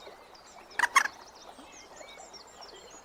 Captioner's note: moorhen calls